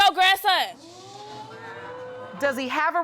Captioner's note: audience exclaims